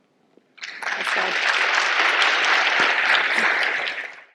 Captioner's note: audience applauding